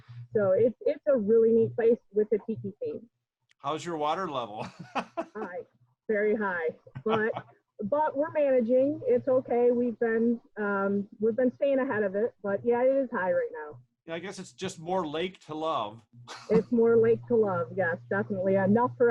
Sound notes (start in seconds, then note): 4.4 laughs; 16.3 chuckles